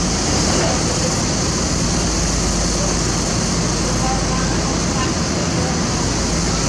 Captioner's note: engine